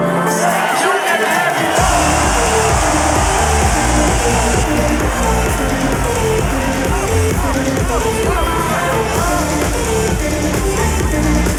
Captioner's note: crowd going crazy